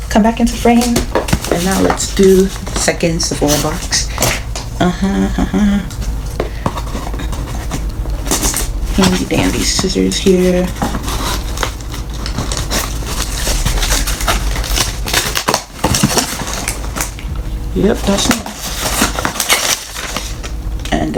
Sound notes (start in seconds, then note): 13.2 opening package sounds